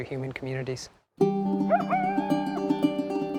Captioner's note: coyote howling